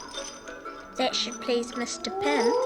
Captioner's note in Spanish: cadenas traqueteando